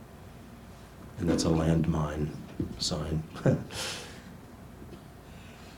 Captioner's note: laughs